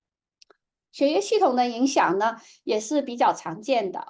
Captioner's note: speaking chinese